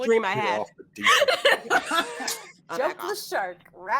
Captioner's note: all laughing